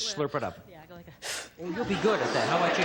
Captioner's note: slurps